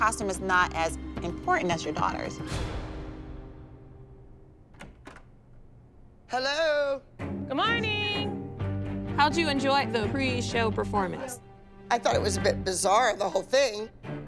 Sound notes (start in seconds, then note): 4.6 door opens